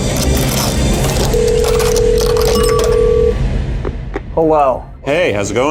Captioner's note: phone ringing